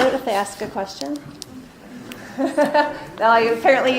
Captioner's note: laughing